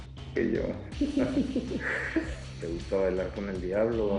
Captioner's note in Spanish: Risas